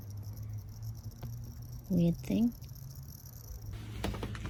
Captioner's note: flame makes pathetic crackling noise